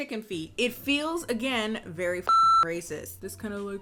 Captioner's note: beeps